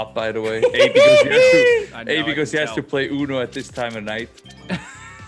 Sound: laugh

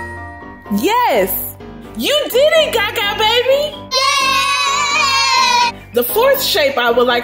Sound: boys cheer

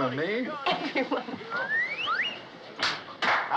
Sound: laughing

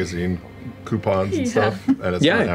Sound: laughing

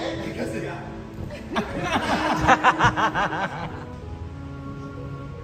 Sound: laughing

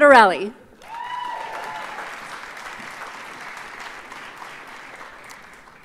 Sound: audience cheers and applauds

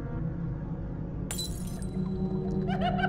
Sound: glass breaking; water dripping

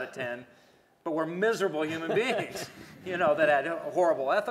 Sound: laughter

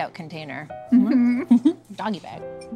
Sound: giggling

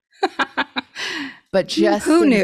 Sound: laughs

